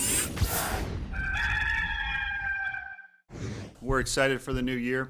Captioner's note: rooster crowing